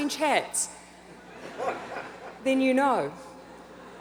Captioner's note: audience laughs